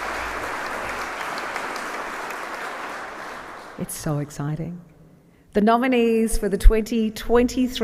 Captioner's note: applause